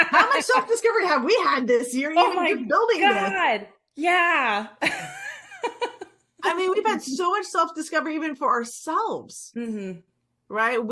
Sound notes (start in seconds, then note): 5.0 laughs